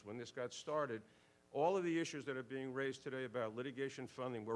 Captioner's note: none